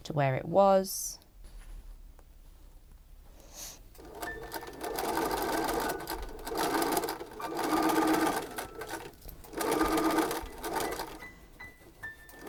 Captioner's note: machine whirring and clicking